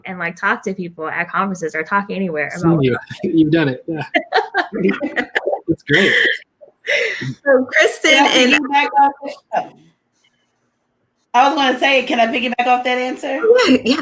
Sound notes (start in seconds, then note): 4.2 laughs